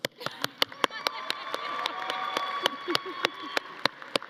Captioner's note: audience applauding